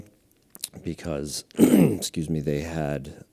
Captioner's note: clears throat